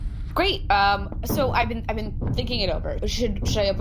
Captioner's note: nervous, audibly pacing around